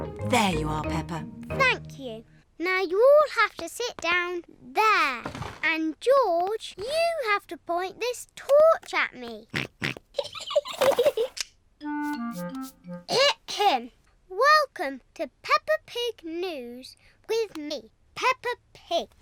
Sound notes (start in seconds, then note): 9.6 snorts; 10.2 giggling